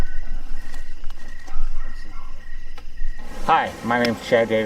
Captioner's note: crickets chirping